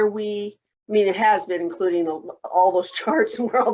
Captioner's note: laughs